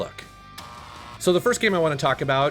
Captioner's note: buzzer buzzing